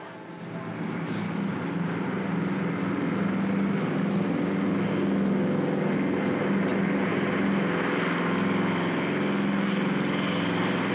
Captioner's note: aircraft rumbles